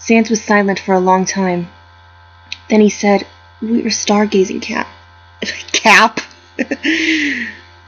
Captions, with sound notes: Sans was silent for a long time then he said we were stargazing cap... Cap? *laughs*